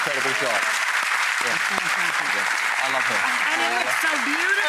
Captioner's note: audience clapping